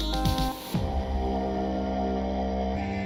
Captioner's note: deep voice jumpscare